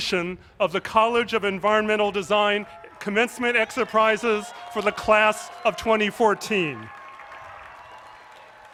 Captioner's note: applause